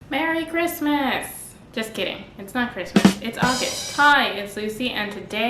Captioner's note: ba dum tsss sound effect